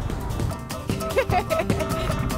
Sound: giggling

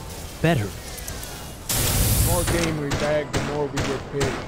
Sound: gunshot

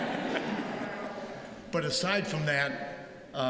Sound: laughter

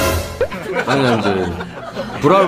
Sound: barely holding her laughter

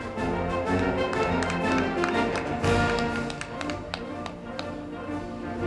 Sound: band music; crowd clapping

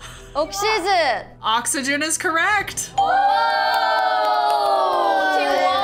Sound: members cheer

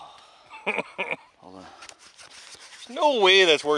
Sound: chuckles

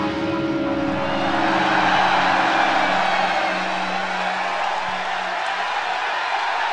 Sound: cheering

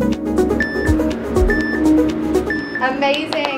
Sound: timer beeping

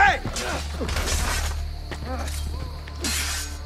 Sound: fighting sounds

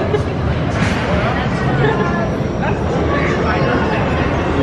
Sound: coaster rumbling

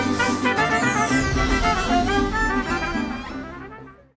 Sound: logo swooshing gently

